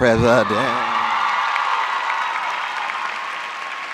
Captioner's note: applause